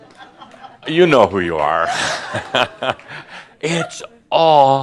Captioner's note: Adamus chuckles